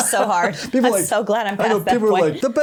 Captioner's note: laughs